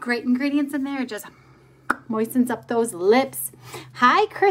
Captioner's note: smack lips